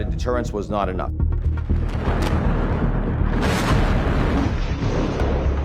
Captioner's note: explosions booming